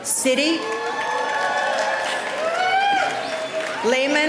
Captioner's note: cheering